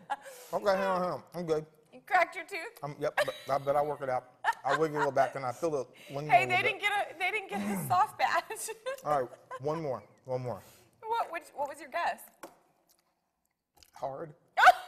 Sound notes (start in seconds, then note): 4.4 laughing; 8.5 laughs; 14.6 laughing outburst